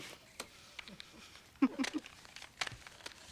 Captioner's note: laughs